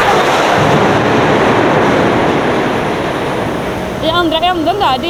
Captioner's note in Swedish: Höga ljud från lastning